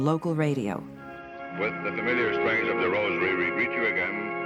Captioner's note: radio Announcer